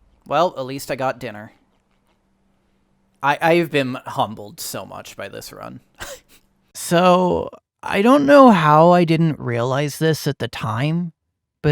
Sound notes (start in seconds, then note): 6.0 laughs